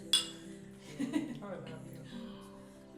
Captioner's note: chuckles